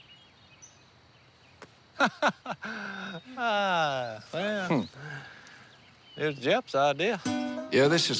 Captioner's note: laughs